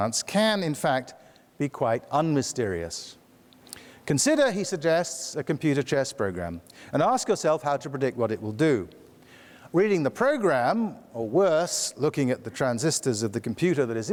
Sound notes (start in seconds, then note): none